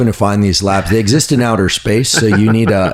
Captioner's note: laughing